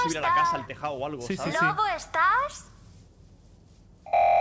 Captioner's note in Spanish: canta; hablan de fondo